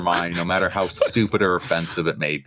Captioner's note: laughter